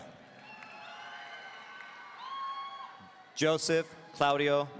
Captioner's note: audience cheering